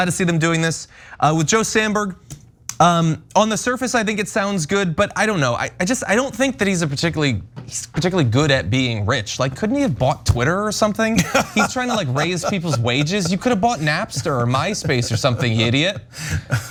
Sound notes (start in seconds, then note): 11.2 laugh